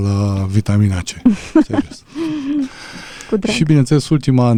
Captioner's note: gasp